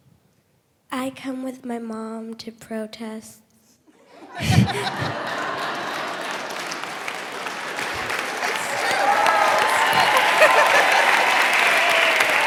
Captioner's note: applause